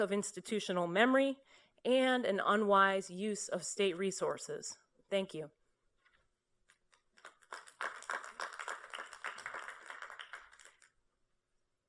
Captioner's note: applause